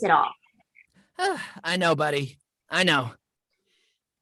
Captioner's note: sighs